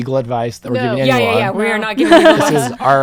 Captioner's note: laughs